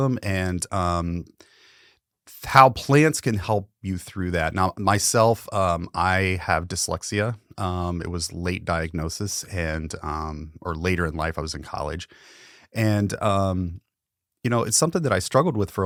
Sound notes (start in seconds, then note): none